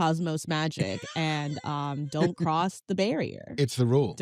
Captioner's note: laughs